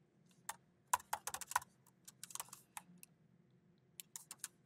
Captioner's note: keyboard clacking